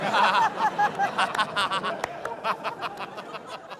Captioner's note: laughter